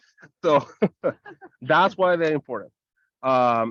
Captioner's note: chuckles